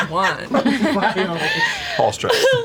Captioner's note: laughter